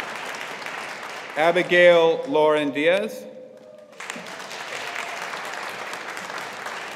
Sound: audience applauding

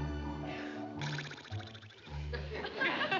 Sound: blowing sound

